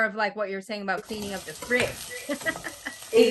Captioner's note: laughs